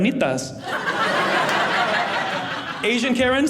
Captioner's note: audience laughing